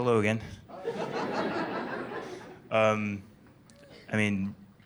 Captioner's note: laughter